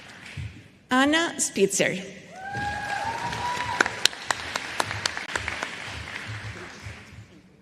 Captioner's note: applause